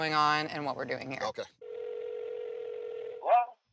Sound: line ringing

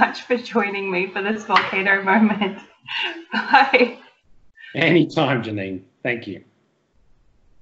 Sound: laughing

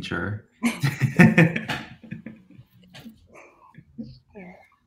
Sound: panelists laugh

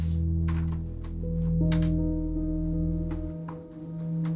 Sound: door squeaks

